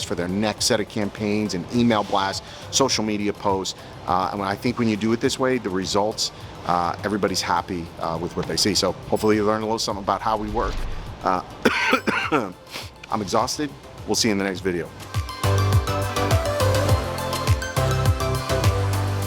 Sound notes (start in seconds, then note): 11.6 coughing; 15.0 upbeat digital music